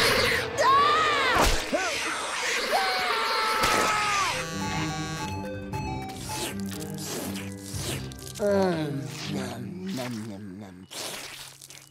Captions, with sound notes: [screaming] [buzzing, chiming] Mm. Num. Num, num, num.